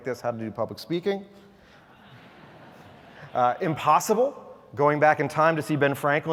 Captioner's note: laugh